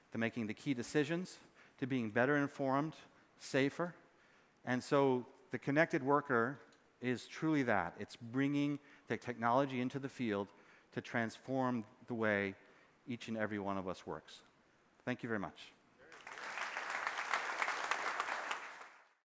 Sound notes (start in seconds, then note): 16.0 applause